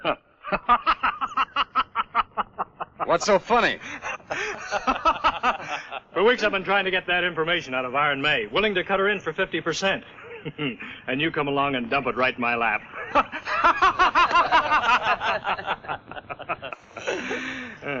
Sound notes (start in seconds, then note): 0.4 Frank laughs; 3.6 laughs; 14.2 laughs